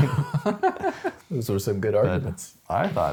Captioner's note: laughing